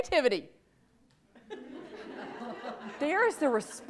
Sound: audience laughs

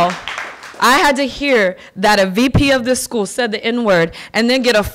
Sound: applause

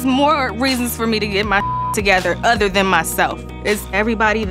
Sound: beep

